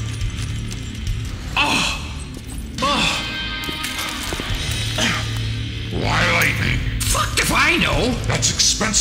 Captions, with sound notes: Ohhhh. Aahhh. (cough) Why lightning? Fucked if I know.